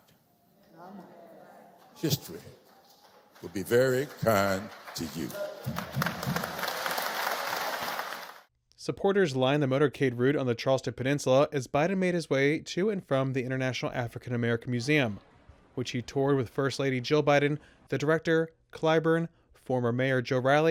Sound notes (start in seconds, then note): 5.8 applause